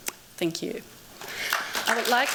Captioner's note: applause